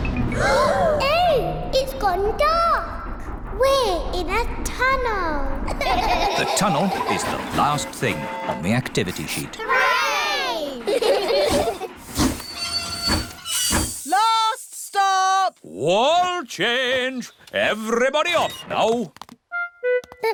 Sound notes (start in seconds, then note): 0.3 all gasp; 5.7 all laugh; 10.6 laugh; 11.8 train chugs